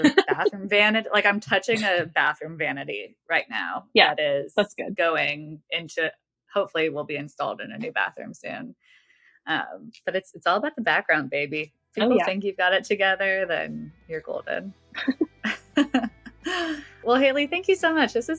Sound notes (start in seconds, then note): 15.0 <Laugh>